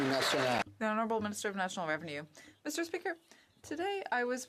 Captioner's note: some Applause